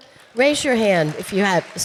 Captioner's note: audience applauding